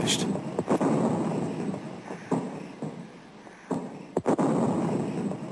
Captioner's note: heavy artillery booming